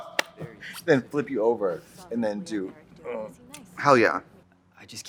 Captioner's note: Trixie groans; grunts